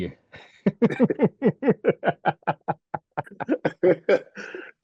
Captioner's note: laughing